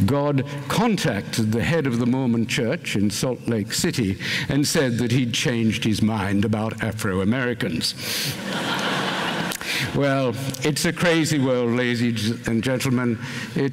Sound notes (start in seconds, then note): 8.3 laughter